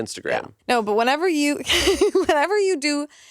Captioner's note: laughs